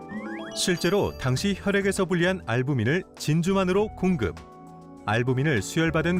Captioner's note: voiceover